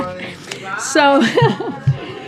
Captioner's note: laughs